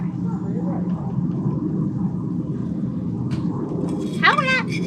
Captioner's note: airplane continues